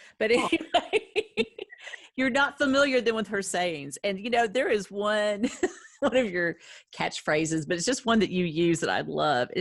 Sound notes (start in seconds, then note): 0.3 laughing; 5.1 laughing